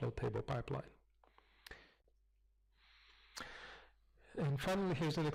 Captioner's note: pause